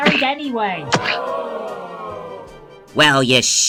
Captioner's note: crowd: shocked gasp